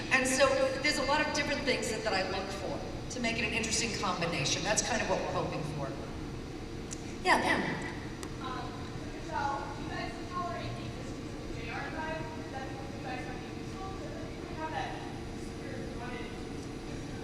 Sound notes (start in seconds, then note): none